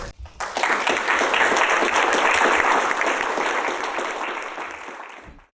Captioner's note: audience clapping